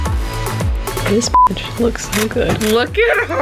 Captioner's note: beep